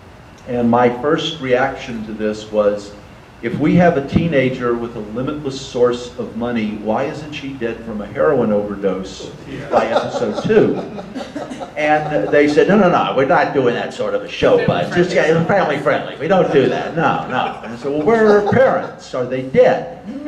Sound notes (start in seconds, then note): 12.4 audience laughter; 16.2 audience laughter